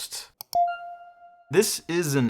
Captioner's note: bell dinging